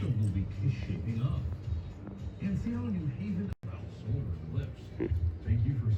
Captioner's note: TV continues playing